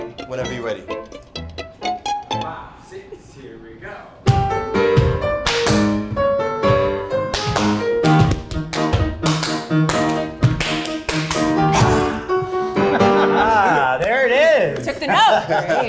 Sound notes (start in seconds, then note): 0.0 guitar plucking; 4.0 classical piano music; 5.4 hands clapping; 6.1 feet stomping; 7.0 classical piano music